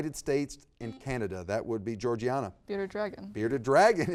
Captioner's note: buzzer beeps